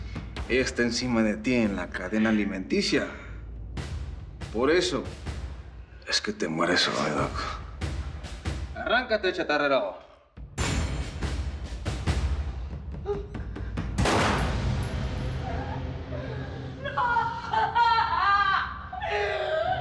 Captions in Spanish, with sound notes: ELLA ESTÁ ENCIMA DE TI EN LA CADENA ALIMENTICIA, POR ESO... ES QUE TE MUERES HOY, DOC. ¡ARRÁNCATE, CHATARRERO! [Disparo] [Sollozos] - ¡NOOOO!